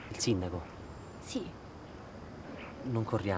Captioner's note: none